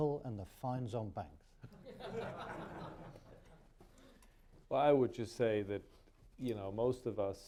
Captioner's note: laughter